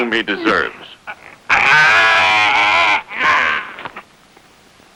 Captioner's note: crying out